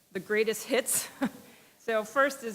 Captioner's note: chuckle